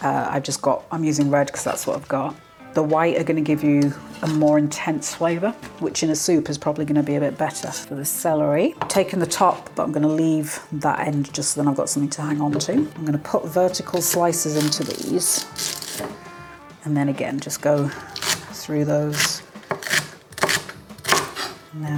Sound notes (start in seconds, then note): 13.9 wet slicing; 18.8 chop chop chop